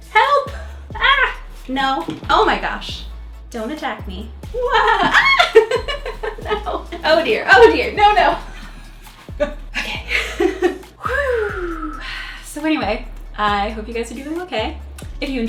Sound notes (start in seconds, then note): 4.5 screaming; 4.6 laughing; 9.7 chuckles; 11.0 exhales